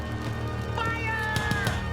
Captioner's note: fire roaring